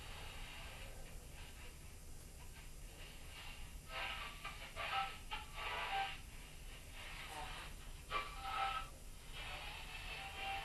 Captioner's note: radio tuning sounds